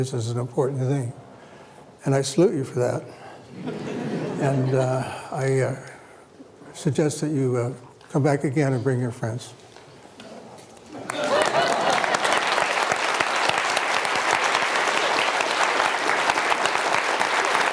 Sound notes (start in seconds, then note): 3.6 laughter; 10.9 applause